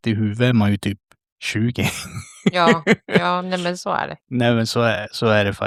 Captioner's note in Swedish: skratt